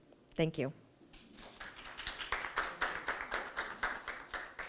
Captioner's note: audience applauding